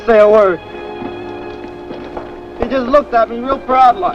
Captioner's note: bomb explodes